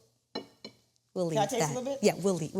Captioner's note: plate tapping